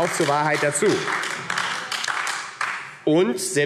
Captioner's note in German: Beifall AfD